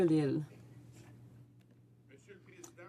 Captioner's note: some Applause